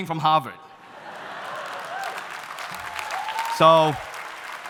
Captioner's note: audience laughing